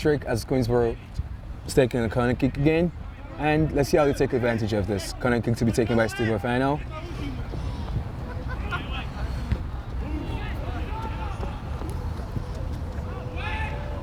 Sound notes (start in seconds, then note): 7.0 laughing; 11.0 players shouting